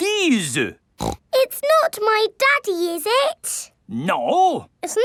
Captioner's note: snorts